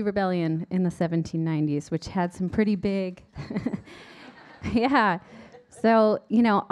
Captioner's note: laughs